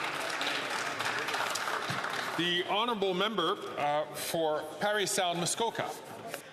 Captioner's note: some Applause